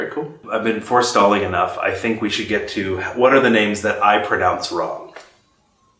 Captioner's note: laughs